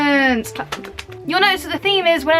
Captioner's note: clap clap clap clap clap